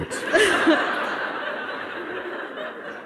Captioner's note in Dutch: gelach